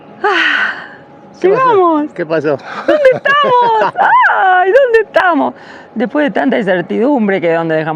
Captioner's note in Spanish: risas